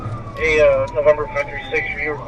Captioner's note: radio chatter